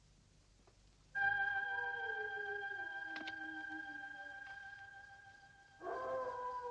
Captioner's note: light dramatic music; wolf howling